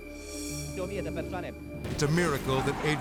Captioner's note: speaking in foreign language